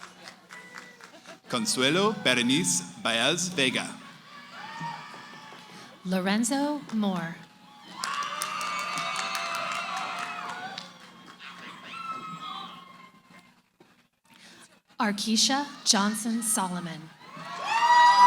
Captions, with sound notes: >> Consuelo Berenice Baez Vega. >> Lorenzo Moore. [ Cheering ] Arkeisha Johnson-Solomon.